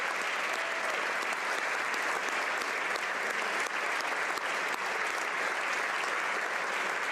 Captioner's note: applause